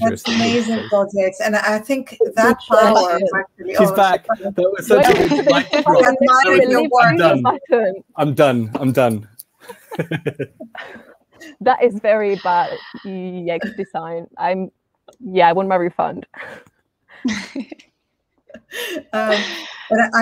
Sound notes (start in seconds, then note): 2.8 all chattering indistinctly; 9.6 all chuckling; 17.2 all chuckling